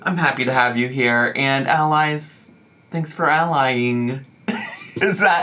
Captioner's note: laughing